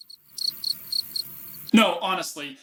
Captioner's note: birds chirping